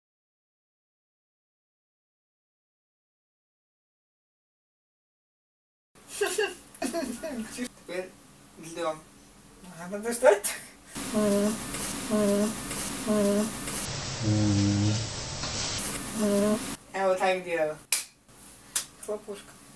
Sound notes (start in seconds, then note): 6.8 laughs; 11.0 lower tone of voice; 14.4 lowering voice in slow motion; 16.0 lower tone of voice; 18.7 claps